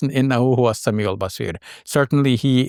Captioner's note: speaking Arabic